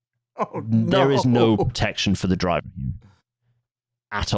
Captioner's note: laughing